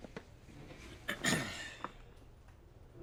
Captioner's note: clears his throat